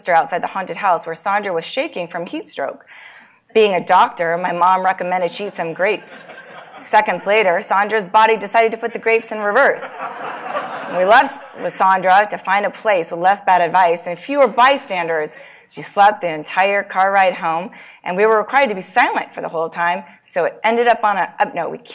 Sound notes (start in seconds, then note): 6.4 laugh